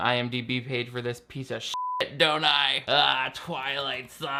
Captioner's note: beep